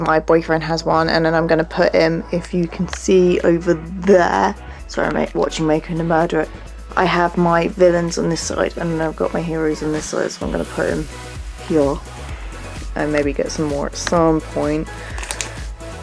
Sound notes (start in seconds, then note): none